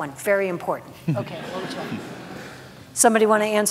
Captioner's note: audience laughs